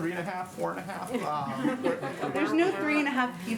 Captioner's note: laughter